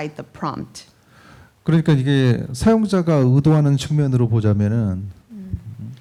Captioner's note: speaking korean